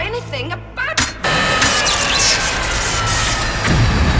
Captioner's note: electricity buzzing